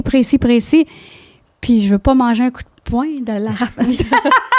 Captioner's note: in french; laughing